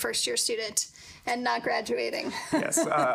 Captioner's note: chuckling